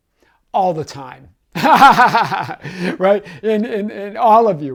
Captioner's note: laughing